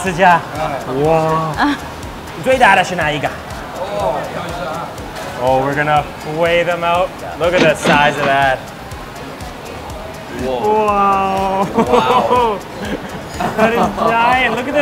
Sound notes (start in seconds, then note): 7.5 cash register ringing; 11.6 laughing